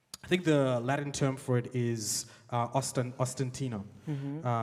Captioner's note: speaks in a foreign language